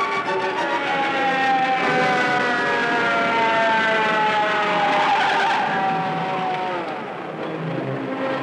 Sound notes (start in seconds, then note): 0.0 siren wailing